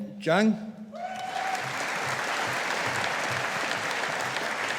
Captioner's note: audience applauding